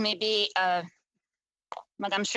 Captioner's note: speaking French